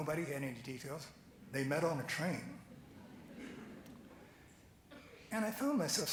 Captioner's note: laughing